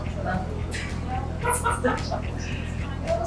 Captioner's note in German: lacht